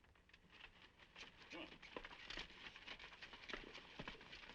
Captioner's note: horse hooves clopping